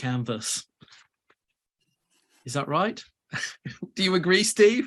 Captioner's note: laughs